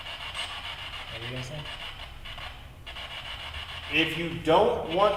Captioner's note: speaking faintly